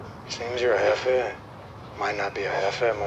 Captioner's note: speaks Spanish